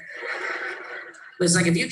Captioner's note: laughs